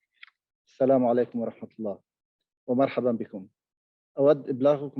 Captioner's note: man speaking in Arabic